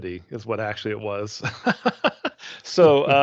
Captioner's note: laughing